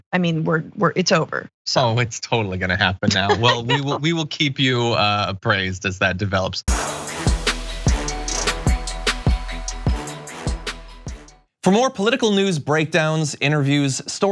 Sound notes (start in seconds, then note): 3.1 laugh